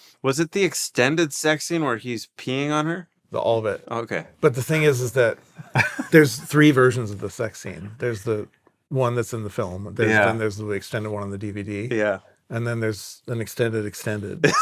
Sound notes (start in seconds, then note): 5.6 laughing